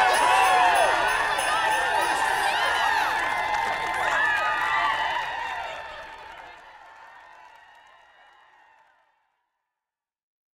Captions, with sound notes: - [CROWD] IT'S SANTA. - [CROWD] OH MY GOSH, IT'S SANTA. (CROWD CHEERING AND APPLAUDING)